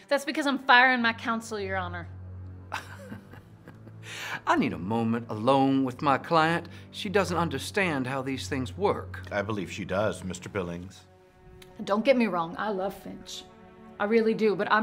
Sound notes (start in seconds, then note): 2.7 Billings laughing